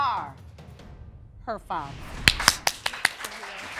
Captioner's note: audience applauding